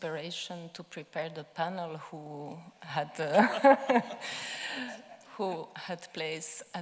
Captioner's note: laughing